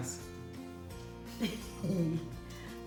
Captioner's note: nervous laugh